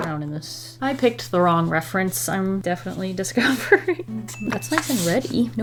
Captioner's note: laughs